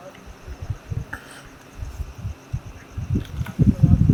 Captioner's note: Tanmay and CC talking